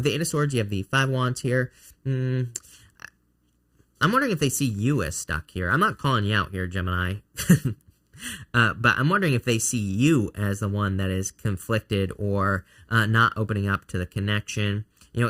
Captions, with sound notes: With the eight of swords you have the five wands here. I'm wondering if they see you as stuck here. I'm not calling you out here, Gemini, (chuckling) but I'm wondering if they see you as the one that is conflicted or not opening up to the connection,